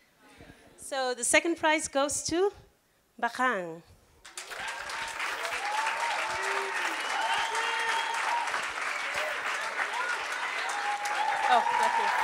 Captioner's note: applause